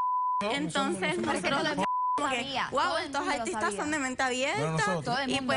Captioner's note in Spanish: Bip